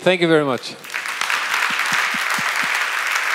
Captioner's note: applause